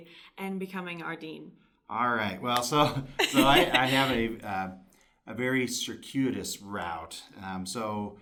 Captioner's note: laughter